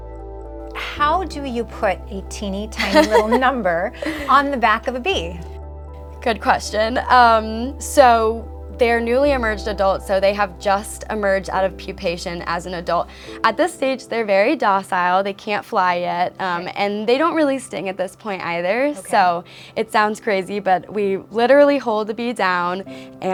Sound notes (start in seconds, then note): 2.7 laughs